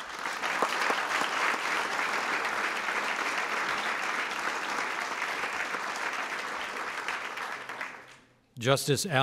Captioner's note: applause